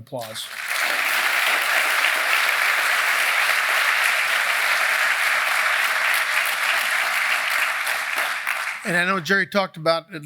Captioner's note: applause